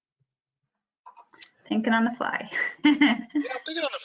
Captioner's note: chuckles